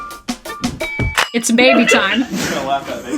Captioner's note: upbeat music; patient laughing